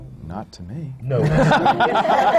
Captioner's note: laughter